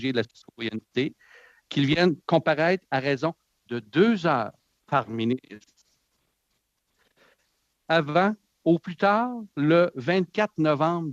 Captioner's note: speaking French